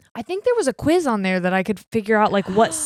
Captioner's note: gasps